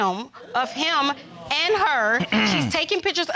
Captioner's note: clears throat